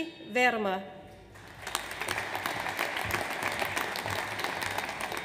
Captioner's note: audience applauds